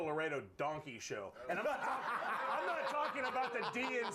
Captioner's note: laughter